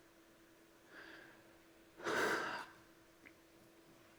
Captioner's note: sighs